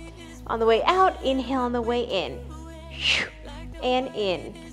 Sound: exhales

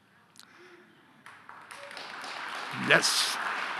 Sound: audience applauding

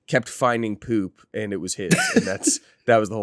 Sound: laughs

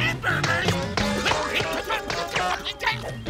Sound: yelling

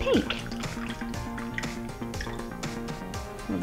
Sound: liquid Poured in Glass

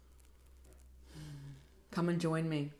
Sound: sigh

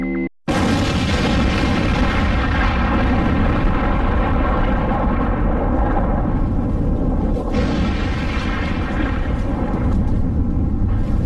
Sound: boom!

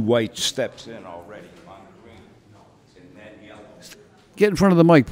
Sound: voice fades from microphone

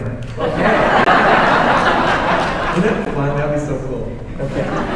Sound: audience laughing

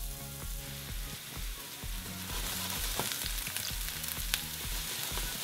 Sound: sizzling

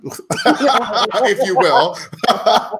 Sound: all laughing

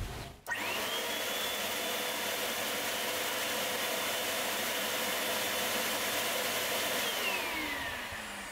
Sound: snow machine noises

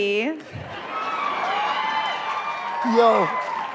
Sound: cheering

